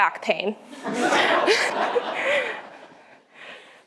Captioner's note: laughter